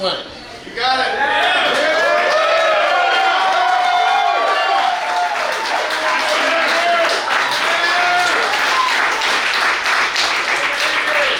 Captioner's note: cheering & Clapping